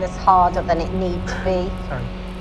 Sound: interviewee sighs

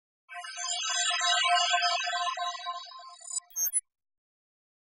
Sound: electronic chiming

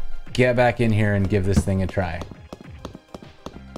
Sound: footsteps

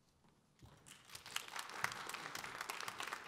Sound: audience applause

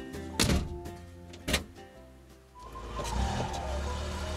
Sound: door clicks; classical piano music

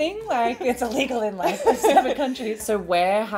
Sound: chuckles

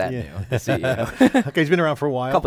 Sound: both laugh

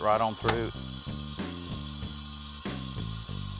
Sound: saw whirring

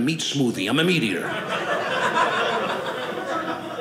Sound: audience laughing

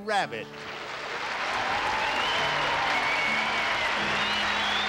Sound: audience applauds

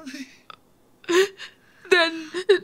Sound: Juliet crying

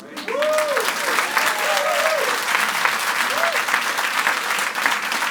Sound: audience applauds and cheers

